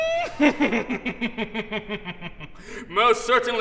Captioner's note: neighing like a horse